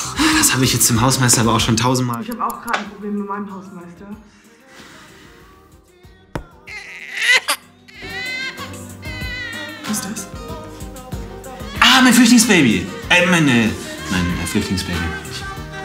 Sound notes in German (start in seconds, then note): 6.3 dumpfer Klopfer; 6.6 Babyweinen